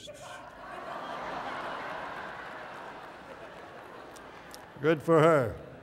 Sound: laughter

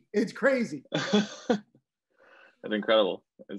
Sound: everyone laughing lightly

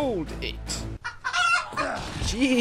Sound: chicken clucks madly

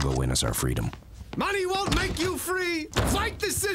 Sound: door closes

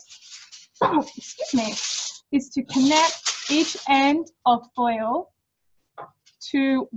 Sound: sneezes

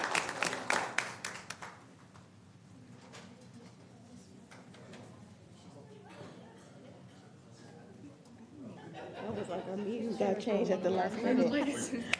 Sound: applause

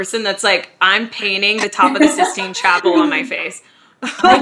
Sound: laughing

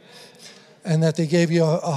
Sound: congregation affirming

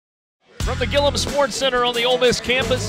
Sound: voiceover

